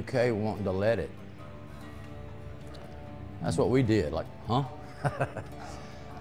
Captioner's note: laughing